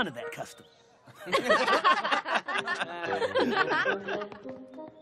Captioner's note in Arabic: الكل يضحك